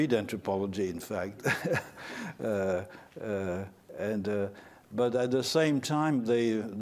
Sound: laughter

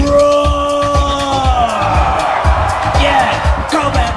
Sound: audience roars

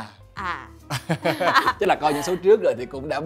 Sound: laugh

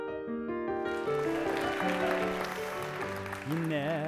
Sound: applause

